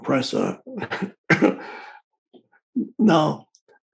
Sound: Eckhart coughing

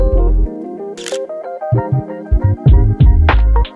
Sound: camera shutter clicks

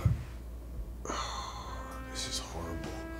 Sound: Nosa Sighs

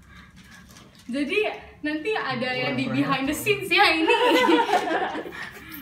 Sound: laugh

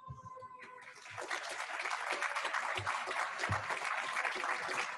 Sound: audience clapping

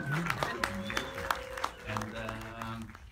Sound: applause

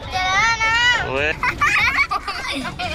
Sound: kids laugh

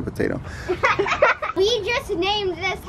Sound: kids laughing

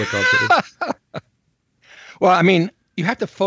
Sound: laughs

